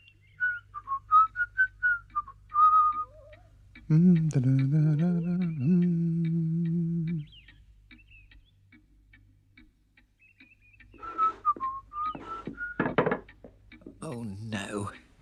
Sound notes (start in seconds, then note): 0.2 whistles; 3.8 hums; 10.9 whistles